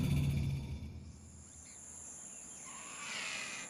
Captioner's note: birds squawking